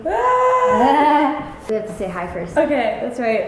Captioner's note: cries out